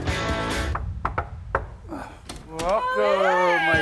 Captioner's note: knocking